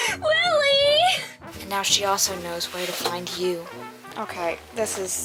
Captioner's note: box noises